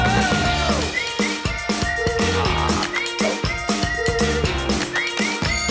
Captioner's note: whistling